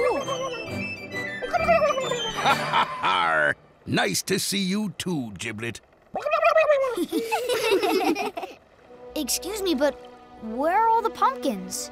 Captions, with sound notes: [laughs] Arrgh! Nice to see you, too, Giblet. - [gobbling] - [laughing] Excuse me, but where are all the pumpkins?